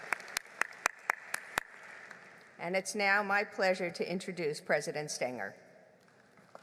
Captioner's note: applause